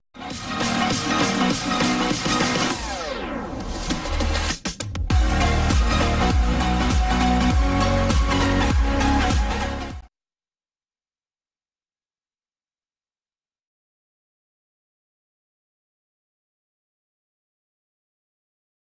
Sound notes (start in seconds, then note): 0.1 epic dance music playing; 10.2 silence